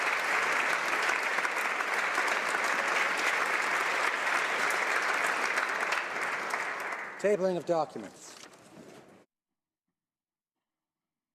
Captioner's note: applause